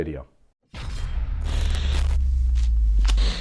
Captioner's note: buzzes